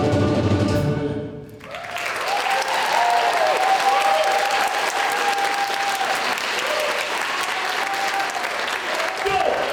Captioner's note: applause